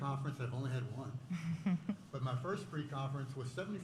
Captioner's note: laughter